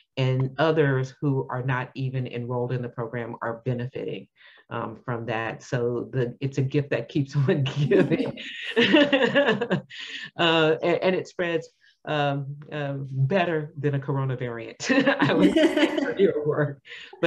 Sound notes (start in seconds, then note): 7.7 laughs; 15.1 both laughing